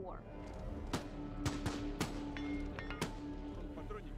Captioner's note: rounds being fired